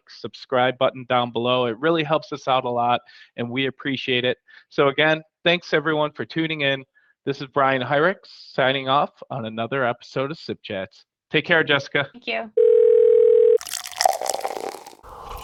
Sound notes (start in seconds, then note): 12.6 phone ringing; 13.6 liquid pouring